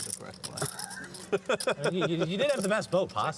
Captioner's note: laughter